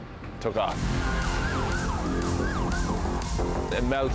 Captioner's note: sirens blaring